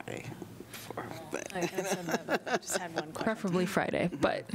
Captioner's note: laughter